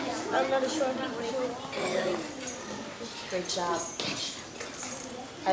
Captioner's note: children talking at once